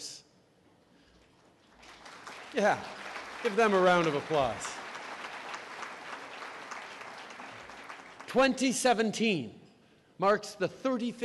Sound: applause

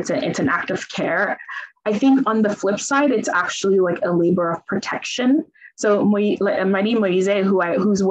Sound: speaks in Italian

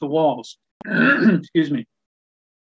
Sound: clears throat

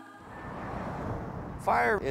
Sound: car engines revving

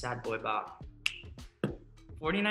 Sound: snaps

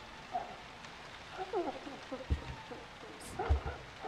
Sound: muffled crying through door

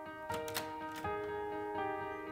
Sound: door opening

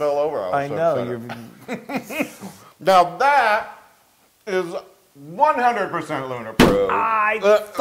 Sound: laugh

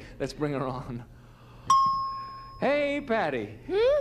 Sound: ding

